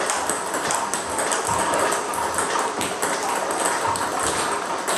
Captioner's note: ball ping pong hitting continues